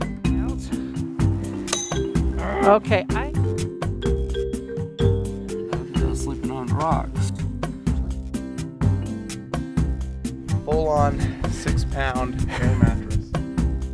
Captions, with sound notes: [pinging sound] I was sleeping on rocks. A full-on, six-pound air mattress.